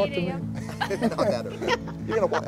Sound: laughs

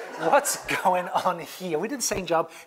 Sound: laugh

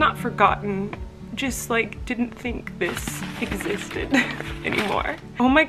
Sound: laughing

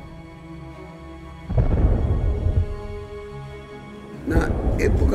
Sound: distant soft explosions

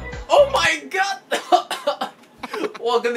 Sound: coughing

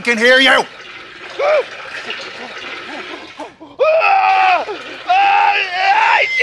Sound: screaming

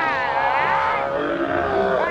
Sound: Ghost roaring

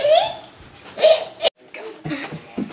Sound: evil Laughter

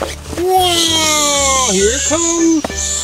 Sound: whirling

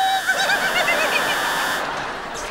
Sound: laughing

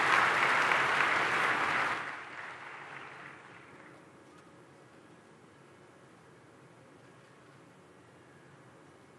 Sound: applause

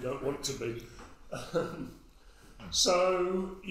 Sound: audience member laughs

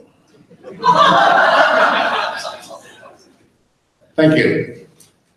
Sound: audience laughs

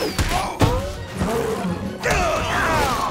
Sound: grunting

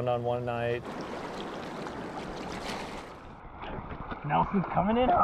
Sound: running water

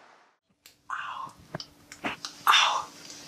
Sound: toothpick clicking

